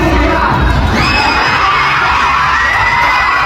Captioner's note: Lingling Screaming